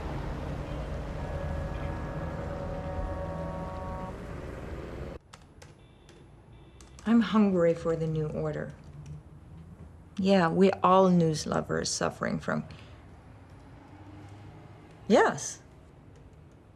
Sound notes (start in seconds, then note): 4.9 computer keys clicking